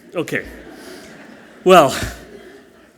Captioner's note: audience laughing softly